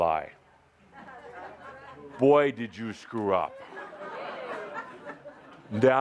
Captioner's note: laughter